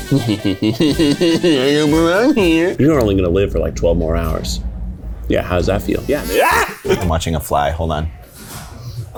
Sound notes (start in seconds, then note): 0.0 cackling mischievously; 1.5 in a mischevous fly-like voice; 6.1 screams; 6.4 fly buzzes